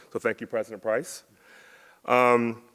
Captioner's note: none